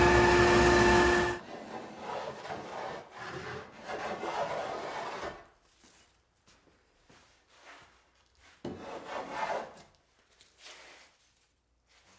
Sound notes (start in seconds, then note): 1.9 block plane scratching